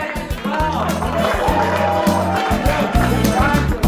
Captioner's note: applause